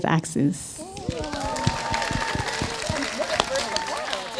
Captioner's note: audience applauds